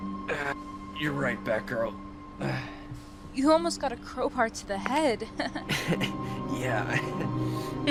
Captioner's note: laughing